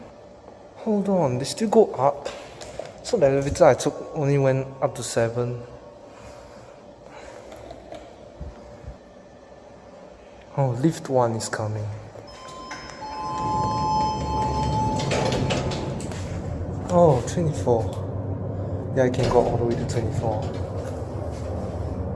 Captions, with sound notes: Hold on! They still go up? So the elevator I took only went up to 7. Now Lift 1 is coming. *Chime* Wow, 24! Yeah I can go all the way to 24.